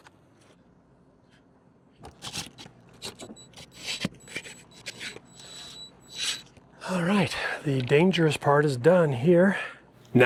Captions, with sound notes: (drill whirring) All right. The dangerous part is done here.